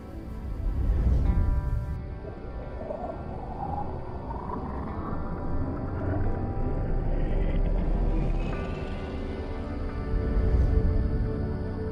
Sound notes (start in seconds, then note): 0.6 gentle music; 0.6 spacecraft whooshes; 2.3 spacecraft engine whirs